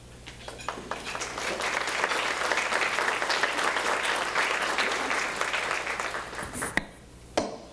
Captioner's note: applause